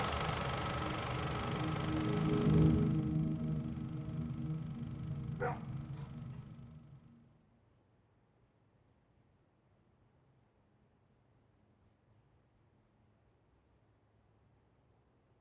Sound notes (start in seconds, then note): 1.4 ambient music; 5.4 dog barks